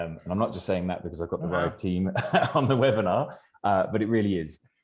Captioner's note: laughs